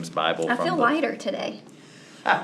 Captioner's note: laughing